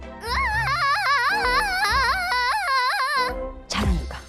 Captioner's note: screaming